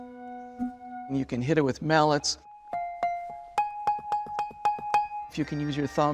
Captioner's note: nats: bell being struck, then touching the foam creating a "wah, wah" sound; nats: bell being hit with mallets